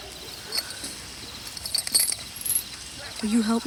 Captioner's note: chain clinks